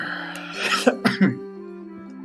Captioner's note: coughs